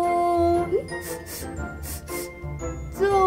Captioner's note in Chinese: 嗅聞聲